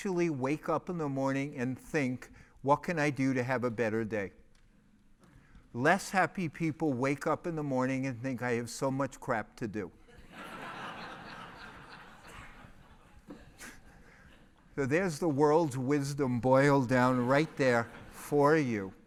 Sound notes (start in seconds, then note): 10.3 laugh